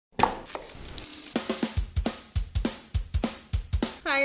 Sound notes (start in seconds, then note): 0.1 chopping; 0.4 sizzling; 1.0 upbeat music